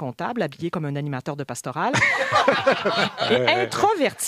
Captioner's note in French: rires